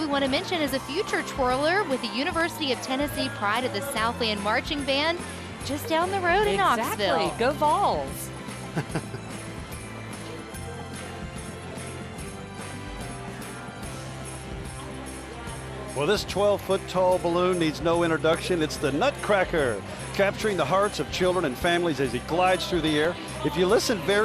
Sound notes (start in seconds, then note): 6.9 laughing; 9.0 holiday music